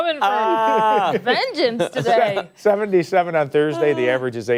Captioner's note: laughter